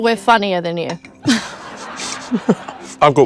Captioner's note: people laugh